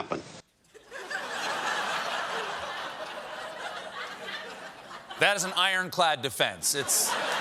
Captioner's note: laughter